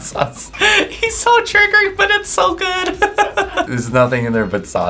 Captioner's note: laughs